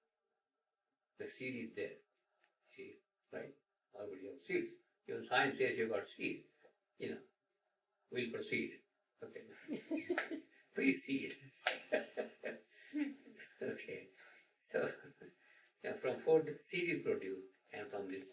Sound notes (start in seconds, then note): 11.5 laughter